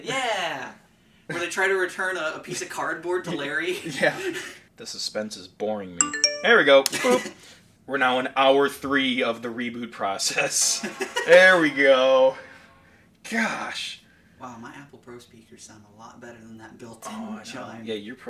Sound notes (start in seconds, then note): 4.1 laughing; 10.6 laughing